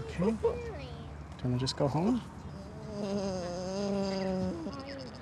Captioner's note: groans